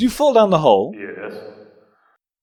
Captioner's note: echoing